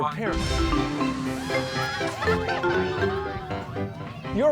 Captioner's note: cheering, shouting